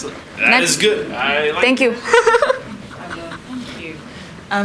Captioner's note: laughs